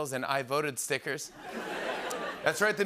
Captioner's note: laughter